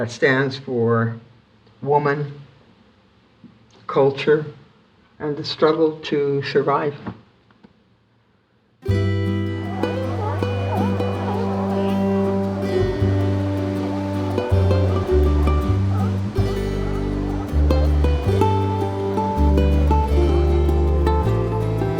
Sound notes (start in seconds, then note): 9.5 barking